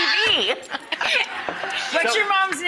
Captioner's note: shrieks